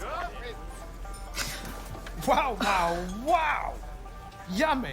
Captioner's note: gasps